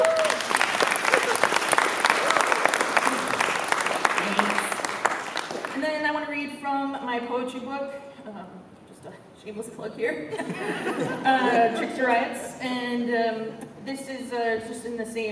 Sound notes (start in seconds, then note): 0.0 cheering; 0.0 applause; 10.3 laughter